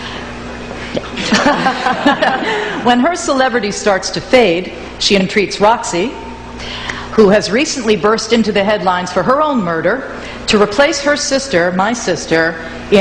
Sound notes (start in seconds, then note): 1.0 laughs; 1.1 audience laughs